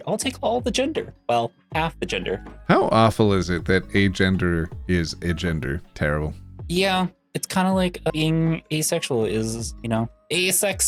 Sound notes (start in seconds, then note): none